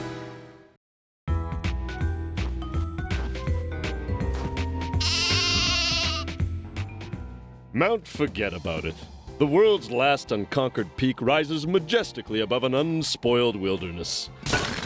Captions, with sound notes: (bleats) MOUNT FORGET ABOUT IT. THE WORLD'S LAST UNCONQUERED PEAK RISES MAJESTICALLY ABOVE AN UNSPOILED WILDERNESS.